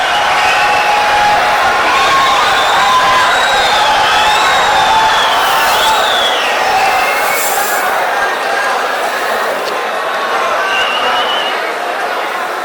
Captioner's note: wild applause and cheering for 22 seconds